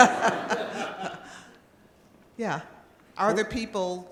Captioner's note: laughter